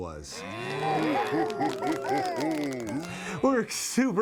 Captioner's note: mooing and applauding